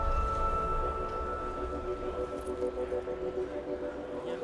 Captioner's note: background chatter